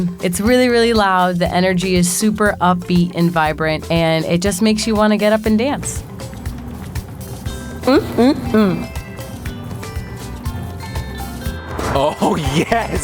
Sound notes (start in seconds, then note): 7.8 moaning